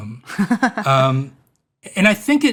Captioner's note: laughs